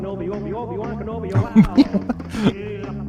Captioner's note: laughter